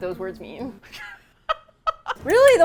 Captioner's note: laughs